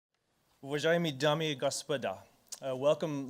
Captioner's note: speaking foreign language